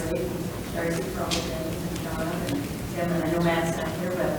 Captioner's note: speaks distantly